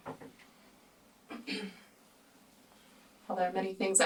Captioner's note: Jen clears throat